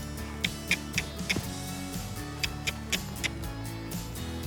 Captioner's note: clicking